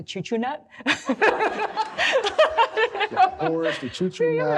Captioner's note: audience laughs